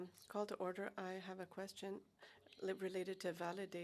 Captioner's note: speaking French